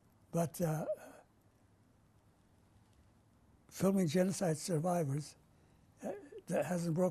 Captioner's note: pauses for 3 seconds